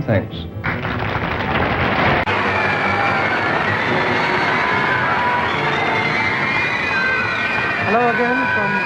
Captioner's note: screams and applause